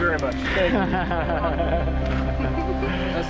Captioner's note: laughs